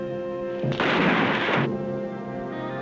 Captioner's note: gunshot